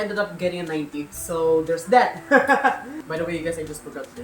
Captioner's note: laughs